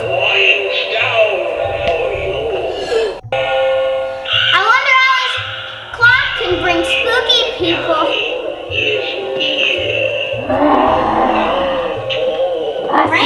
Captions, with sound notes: (gasps) - I wonder how this clock can bring spooky people. (growling)